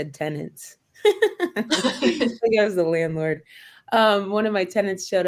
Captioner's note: laughter